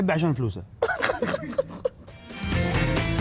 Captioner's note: laughs